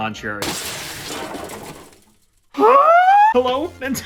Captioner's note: hilarious smashing sound effect ensues